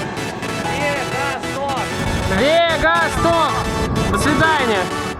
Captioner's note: sounds of riding away